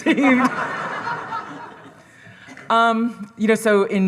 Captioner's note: all laughing